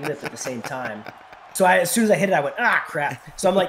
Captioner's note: laugh